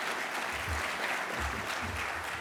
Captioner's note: applause